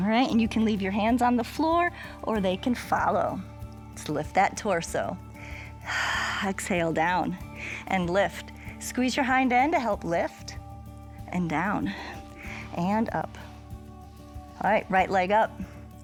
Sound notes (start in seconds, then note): 7.5 exhales